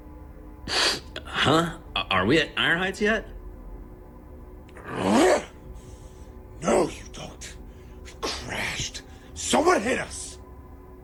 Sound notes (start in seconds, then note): 2.1 snorts